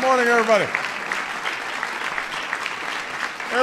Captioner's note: applause